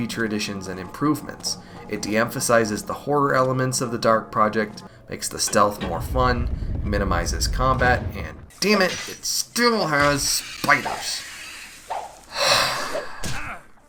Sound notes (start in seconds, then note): 12.3 sigh